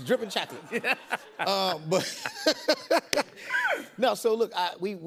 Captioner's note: laughter